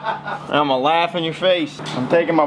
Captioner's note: laughter